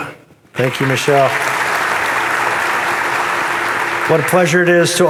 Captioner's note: audience applauding